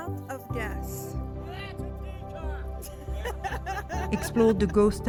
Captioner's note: laugh